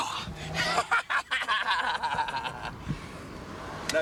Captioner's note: laughs